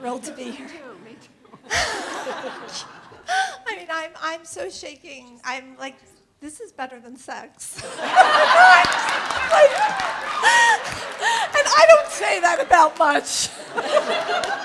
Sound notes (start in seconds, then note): 1.5 laughing; 7.8 audience laughing; 11.9 in exasperated tone